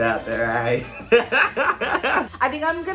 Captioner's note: laughing